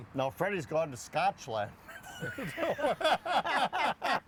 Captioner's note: both laughing